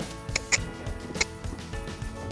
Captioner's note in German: Schnalzen